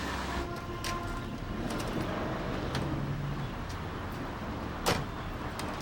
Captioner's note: vehicle engines revving; car door thudding